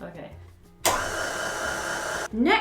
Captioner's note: mixer noise